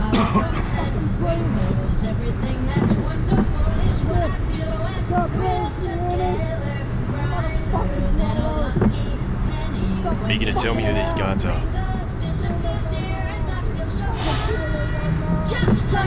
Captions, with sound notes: [Banging from the back] You gonna tell me who these Guards are?